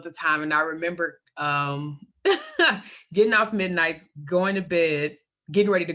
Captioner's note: laughs